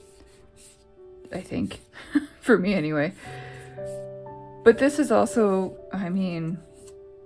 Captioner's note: laugh